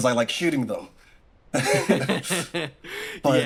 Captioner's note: laughs